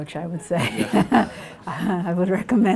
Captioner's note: everyone laughs